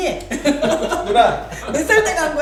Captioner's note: hahahahahaha